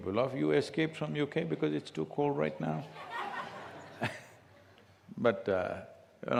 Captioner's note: laughter